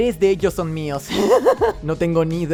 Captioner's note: Jack laughing